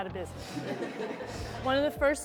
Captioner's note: people laughing